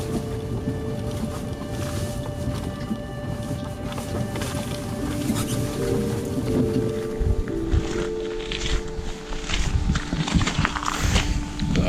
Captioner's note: car Sound